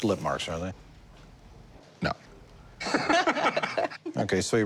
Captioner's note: laughter